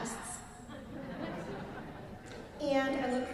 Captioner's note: laughs